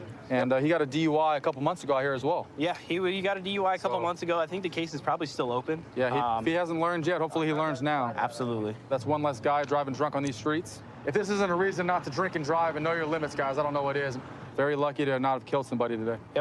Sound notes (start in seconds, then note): none